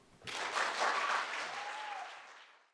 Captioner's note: audience applauds